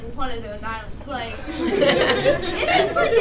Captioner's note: laughter